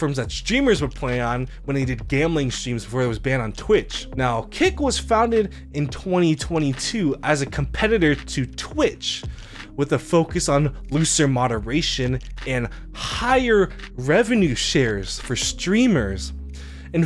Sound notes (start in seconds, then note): none